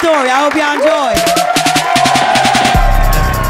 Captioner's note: cheers and applause